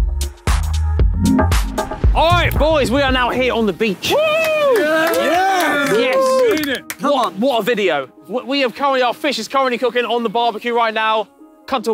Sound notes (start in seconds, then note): 4.0 Sidemen cheering and clapping